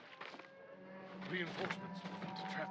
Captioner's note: alarm